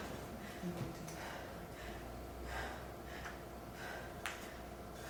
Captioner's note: actor breathing deeply